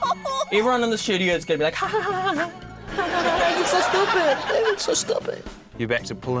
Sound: titters

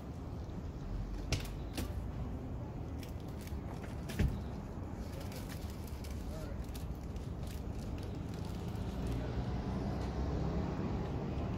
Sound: Doors and rustling at fire truck

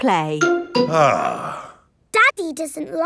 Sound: sighs

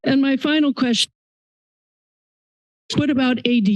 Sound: silence

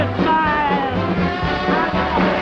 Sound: audience applauding

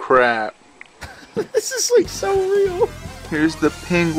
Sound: laughs

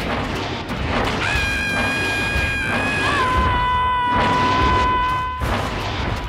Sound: yells

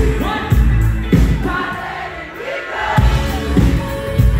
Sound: crowd

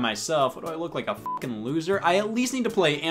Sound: beep

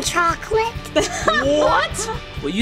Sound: laughing

